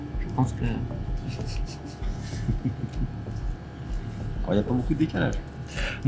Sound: laughing

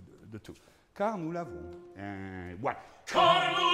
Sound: speaking in foreign language; singing in foreign language

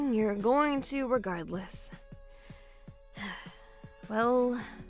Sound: tired sigh

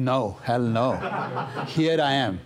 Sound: laughter

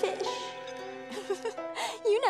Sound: giggling

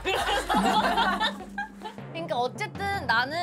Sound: laughing

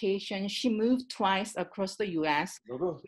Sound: man speaks faintly

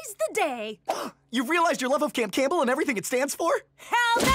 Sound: gasp

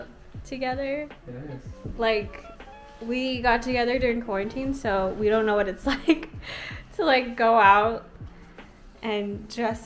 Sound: laughs

